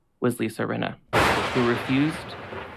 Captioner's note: lightning sound